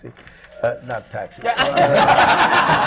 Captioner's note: laughter